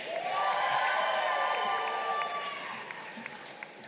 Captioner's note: crowd cheering